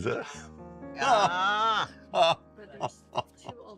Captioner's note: laughter